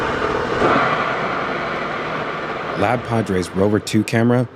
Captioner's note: loud bang